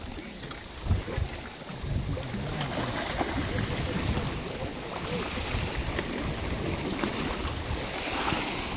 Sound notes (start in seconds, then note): 3.4 water splashing